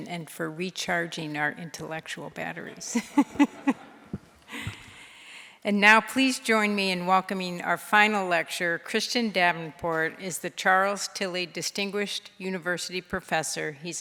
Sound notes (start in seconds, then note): 3.0 laughing